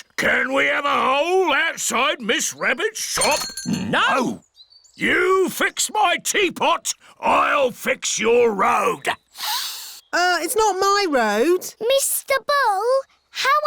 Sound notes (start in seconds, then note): 9.3 sniffs